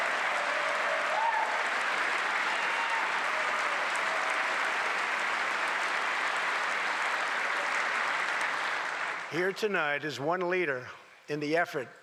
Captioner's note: applause